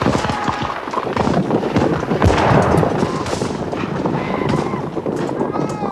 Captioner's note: guns bang; solders shouting